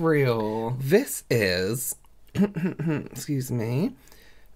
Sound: clears Throat

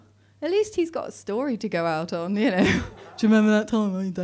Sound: laughs

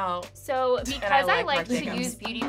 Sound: laughs

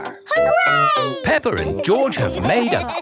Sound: laughing

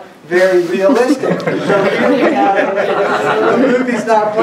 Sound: laughs

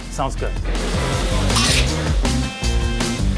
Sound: onions sizzling, cooking

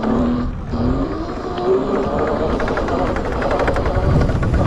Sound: bike motor revving

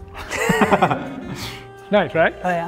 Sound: laughing

